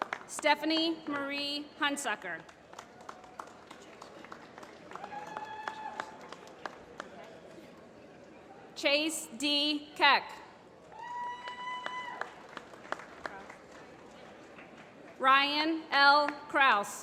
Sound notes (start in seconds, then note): 2.2 applause; 11.0 applause